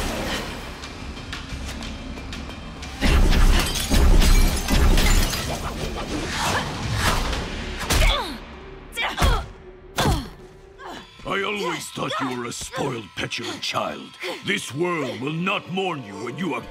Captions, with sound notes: [grunting, shattering] [grunting] I always thought you were a spoiled, petulant child. This world will not mourn you when you are gone.